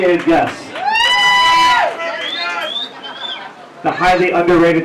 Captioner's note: audience cheering